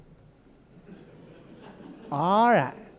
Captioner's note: loud laughter